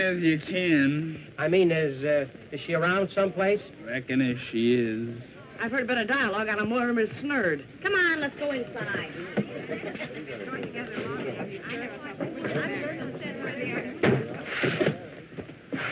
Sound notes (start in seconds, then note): 8.4 chatter